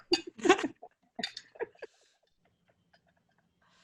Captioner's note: laughs